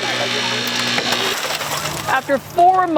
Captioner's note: window smashes